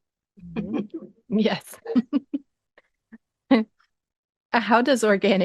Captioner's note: laughing